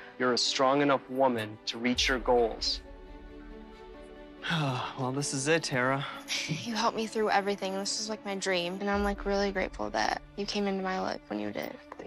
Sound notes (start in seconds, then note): 3.2 uplifting music; 4.4 sighs